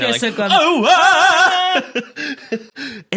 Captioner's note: giggles